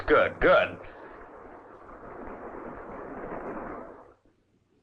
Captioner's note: water sloshing